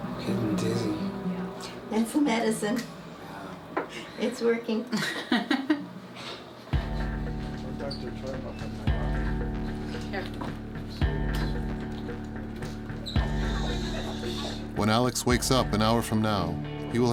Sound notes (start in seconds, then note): 7.1 chattering; 7.1 tense music